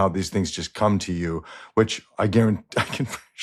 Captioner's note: laughs